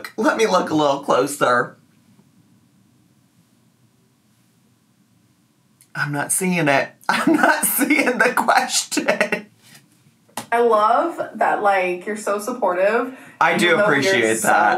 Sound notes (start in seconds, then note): 8.9 laughing